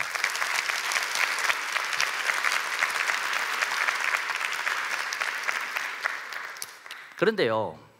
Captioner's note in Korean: 박수